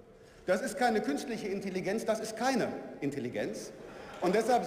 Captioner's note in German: Lachen